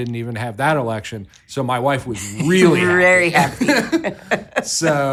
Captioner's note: laughs